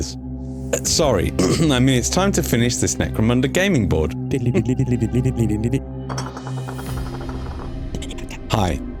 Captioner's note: clears throat